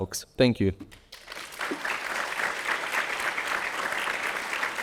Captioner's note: audience applauding